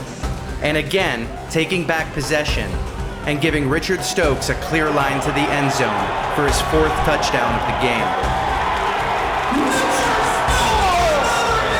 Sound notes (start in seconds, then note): 8.5 crowd Roars!